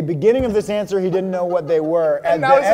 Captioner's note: laughing